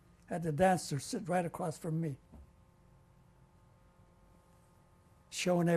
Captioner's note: pauses for 3 seconds